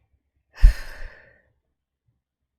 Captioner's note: breathes out